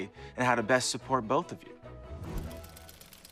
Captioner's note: gears whirring